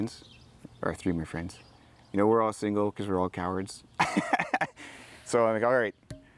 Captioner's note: laughs